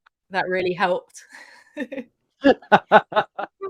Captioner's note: laughter